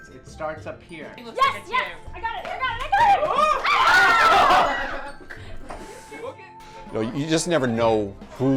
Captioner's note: cheering and laughter